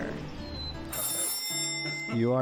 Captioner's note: door chimes ring